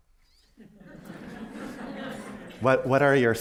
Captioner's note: laughter